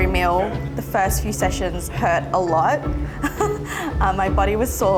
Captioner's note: chuckles